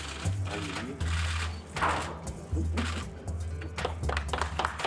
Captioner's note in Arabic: الرئيس يتحدث بهدوء; الجمهور يصفق